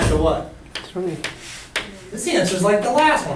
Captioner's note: voiceover